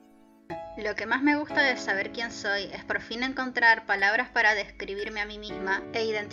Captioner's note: in Spanish